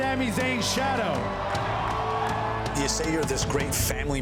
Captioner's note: crowd cheering